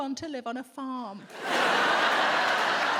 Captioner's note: audience laughs